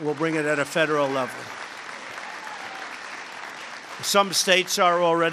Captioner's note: applause